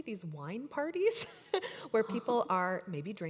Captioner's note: laughing